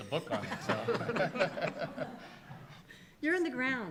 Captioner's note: laughter